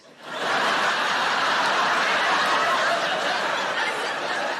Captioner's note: audience laughing